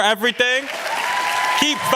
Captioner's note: applause